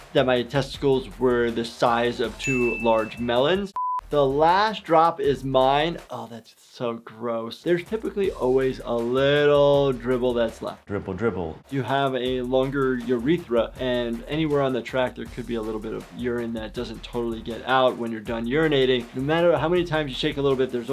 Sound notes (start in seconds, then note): 2.4 high pitch beep